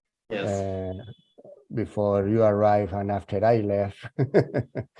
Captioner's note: laughs